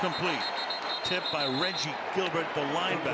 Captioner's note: whistle